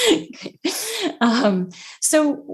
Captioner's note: laughs